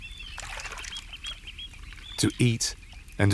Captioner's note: water sloshes